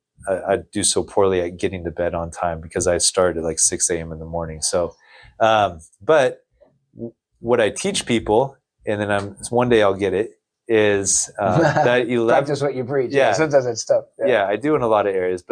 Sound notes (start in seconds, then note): 11.4 laughs